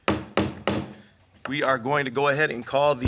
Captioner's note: hammer knocking the table